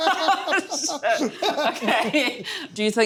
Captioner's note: laughs